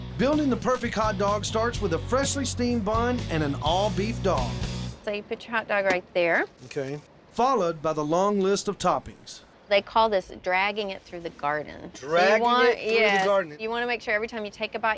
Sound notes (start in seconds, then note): none